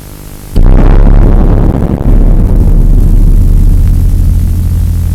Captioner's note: boom